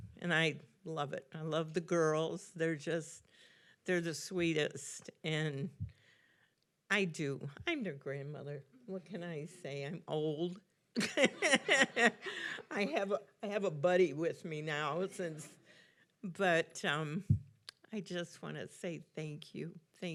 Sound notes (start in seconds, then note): 11.0 laughing; 11.1 audience laughing